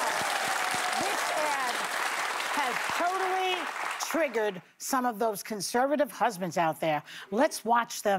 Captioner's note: cheers and applause